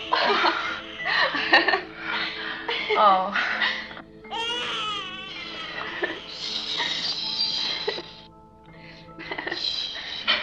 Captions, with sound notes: Oh. (laughing) Oh. Shh. Shh.